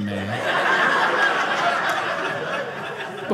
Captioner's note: audience laughing